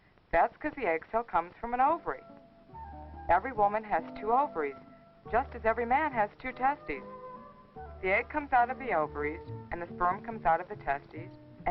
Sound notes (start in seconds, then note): none